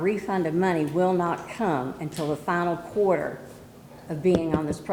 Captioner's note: none